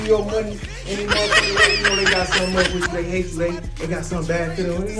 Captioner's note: face laughs